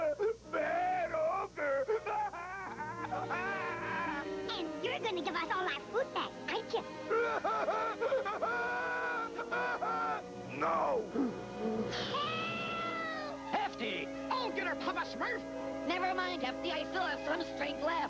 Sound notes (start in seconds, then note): 7.0 crying; 10.9 blows